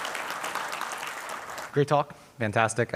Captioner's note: applause